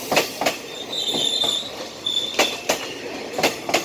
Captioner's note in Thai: รถไฟเบรค